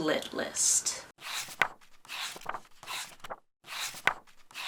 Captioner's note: pages turning